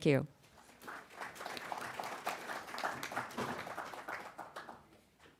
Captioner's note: applause